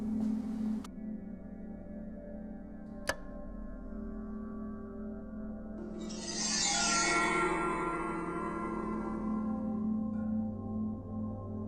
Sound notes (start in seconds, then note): 3.0 light switch flicks off; 5.9 sharp sound